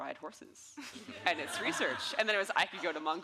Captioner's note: audience laughing